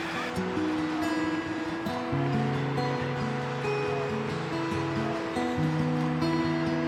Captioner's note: traffic humming; quiet guitar music